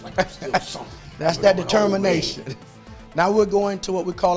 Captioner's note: laughs